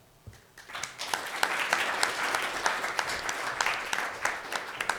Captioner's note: audience applauds